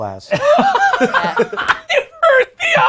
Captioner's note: laughing